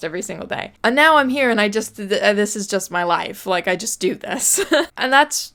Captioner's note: laughs